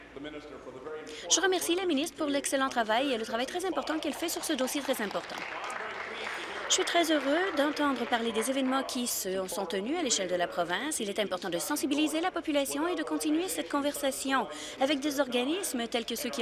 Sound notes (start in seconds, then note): 8.3 applause